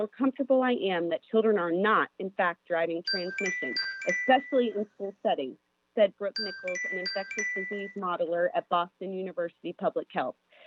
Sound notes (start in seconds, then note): 3.0 chime